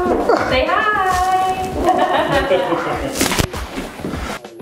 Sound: laughs

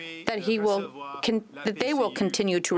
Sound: speaking French

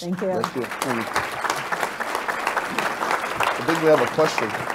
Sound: audience applauds

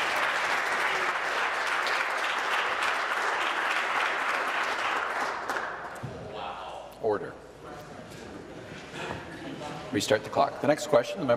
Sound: applause

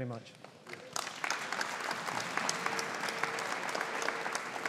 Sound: audience applauding

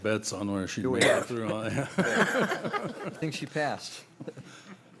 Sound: laughter

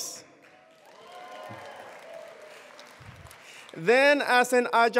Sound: attendees applauding

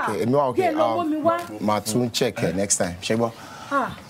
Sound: speaking in foreign language

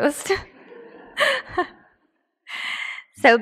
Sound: laughs

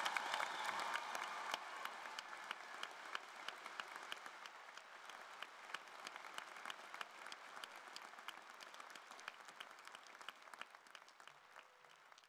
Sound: cheers and applause

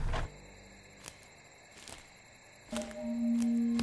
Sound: crickets chirping; dramatic music

